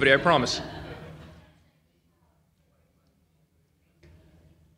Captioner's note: laughter from audience